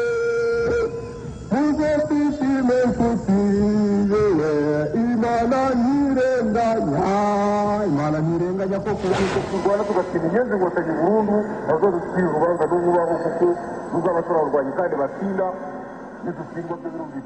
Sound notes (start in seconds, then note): 9.3 man speaking in Rwanda-Rundi over loudspeaker